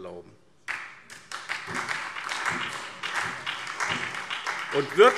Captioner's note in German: Beifall SPD